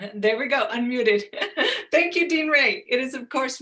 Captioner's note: laughs